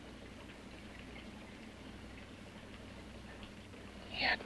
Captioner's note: liquids bubbling